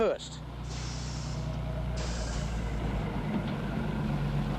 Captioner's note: brakes hissing